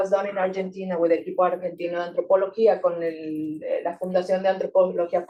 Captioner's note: speaking Spanish